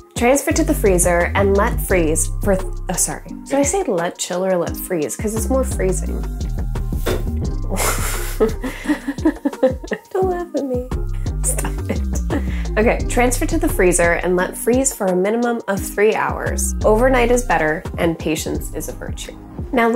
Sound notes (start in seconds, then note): 7.6 laughs